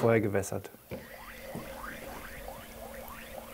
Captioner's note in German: Blubbern